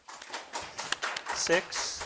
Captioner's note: crowd claps